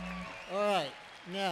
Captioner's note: applause